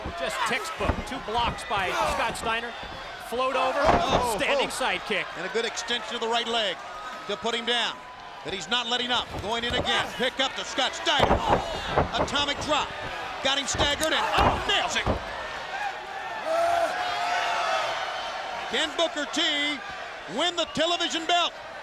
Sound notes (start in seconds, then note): 17.0 Booker shouting; 17.9 crowd shouting